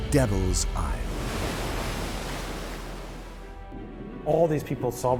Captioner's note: wave crashes